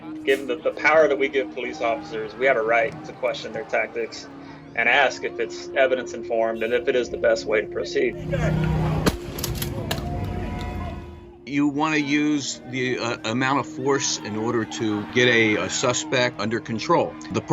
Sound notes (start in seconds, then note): 9.0 gunshot